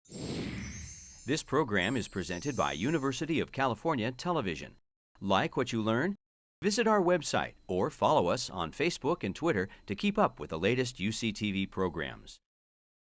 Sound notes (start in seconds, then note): 0.3 wind rushing; 0.5 bells twinkling